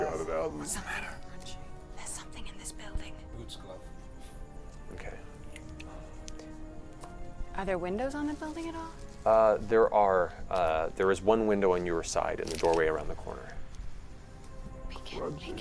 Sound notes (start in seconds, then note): 0.0 nervous laughter; 0.5 whispering